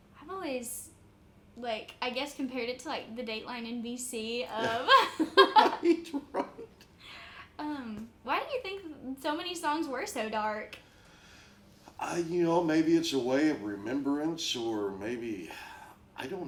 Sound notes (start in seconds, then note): 4.6 laughs